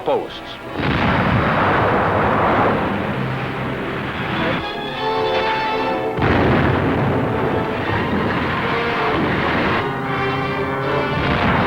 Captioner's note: artillery fire, explosions